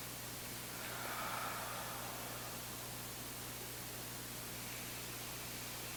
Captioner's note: exhaling deeply; inhaling deeply